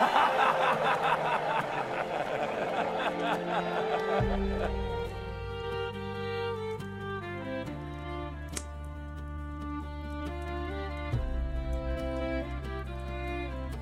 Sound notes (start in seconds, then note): 0.0 laughter